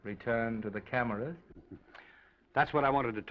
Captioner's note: Oliver chuckles